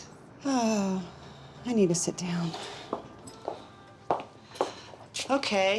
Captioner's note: sighs